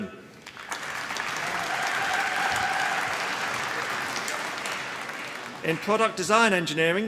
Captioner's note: applause